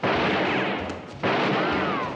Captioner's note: silah ateşleme